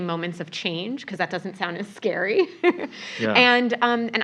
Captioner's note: laugh